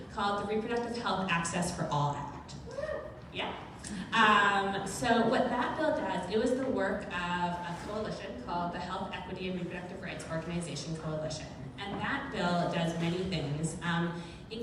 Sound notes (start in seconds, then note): 2.6 crowd member cheers